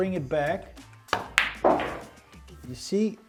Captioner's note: pool ball hitting